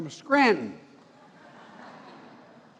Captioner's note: laughter